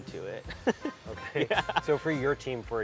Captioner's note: laughing